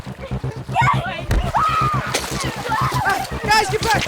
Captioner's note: water splashing